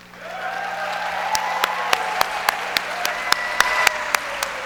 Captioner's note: audience applauds